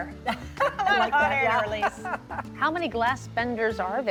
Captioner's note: laughs